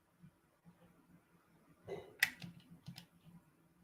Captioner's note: clicking